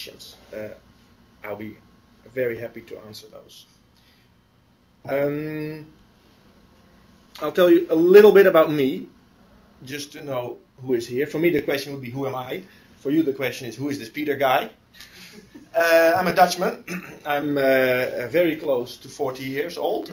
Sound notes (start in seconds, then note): 5.5 pause; 15.2 laughter